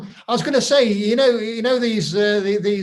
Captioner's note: laughs